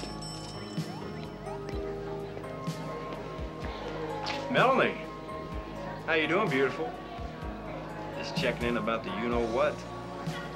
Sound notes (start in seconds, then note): none